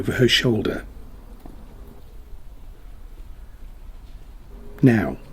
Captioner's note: muffled sound of walking